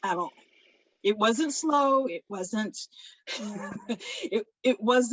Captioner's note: chuckles